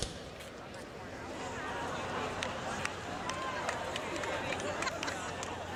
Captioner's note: cheering and applause